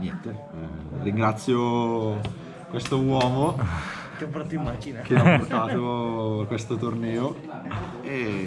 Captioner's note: laughs